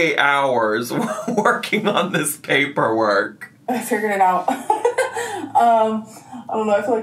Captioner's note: laughs